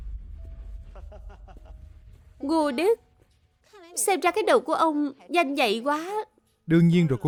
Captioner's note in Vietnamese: tiếng cười